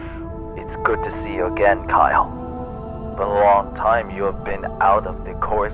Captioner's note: laughs